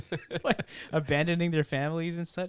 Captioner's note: laughing